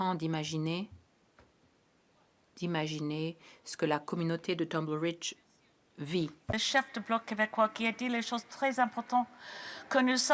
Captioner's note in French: voix de l'interprète